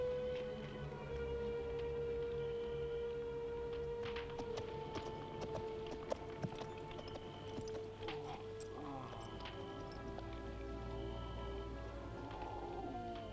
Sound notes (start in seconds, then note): 8.0 Torente groaning